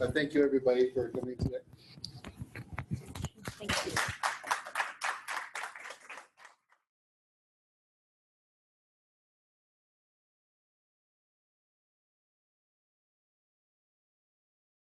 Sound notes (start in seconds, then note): 3.3 audience applauding